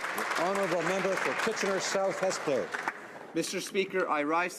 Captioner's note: some Applause